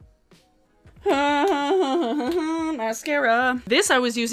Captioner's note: groans